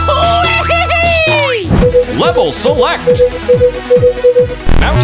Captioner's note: beeping